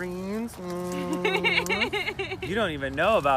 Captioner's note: laughing